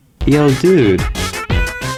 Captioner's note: something in Spanish